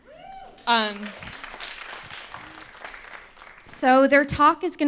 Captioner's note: applause